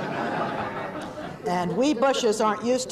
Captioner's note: laughter